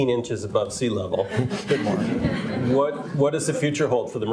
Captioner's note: all laugh